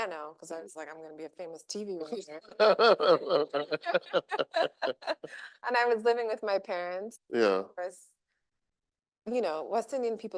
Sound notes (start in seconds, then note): 2.5 laughing